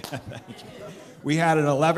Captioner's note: laughter